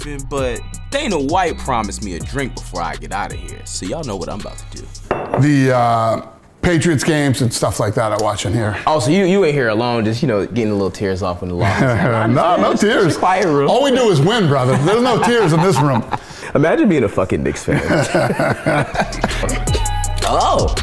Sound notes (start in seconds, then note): 11.6 laughs; 17.6 laughs; 18.5 upbeat hip-hop music